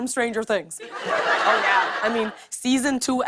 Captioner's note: laughter